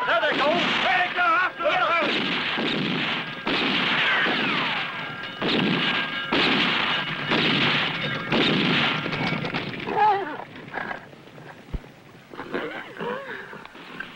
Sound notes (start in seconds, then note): 10.2 neighing